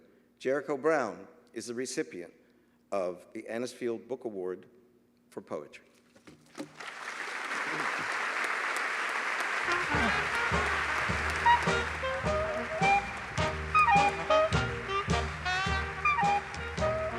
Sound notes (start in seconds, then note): 6.7 applause